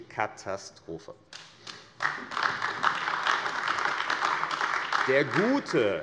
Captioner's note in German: Beifall AfD